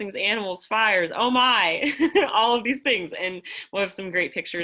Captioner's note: laughter